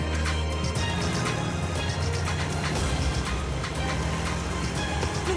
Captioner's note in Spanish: ruido de la motocicleta